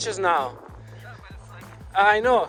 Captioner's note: inaudible whining